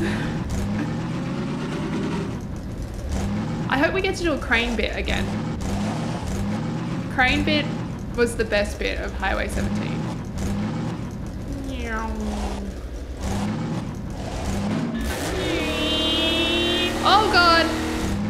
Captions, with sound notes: I hope we get to do a crane-bit again. Crane-bit was the best bit of Highway 17. [Nyooom] [Vrrrrmm] OhGod.